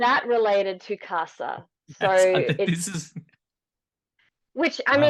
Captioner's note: laughs